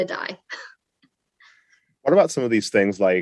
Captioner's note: laugh